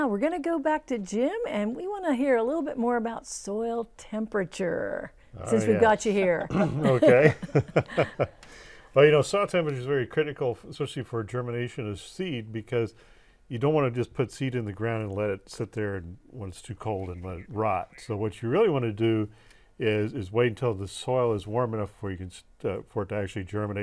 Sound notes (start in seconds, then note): 6.4 laughing